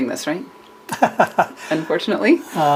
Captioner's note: laughter